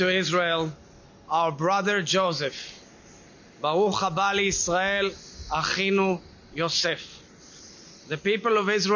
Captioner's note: speaks Hebrew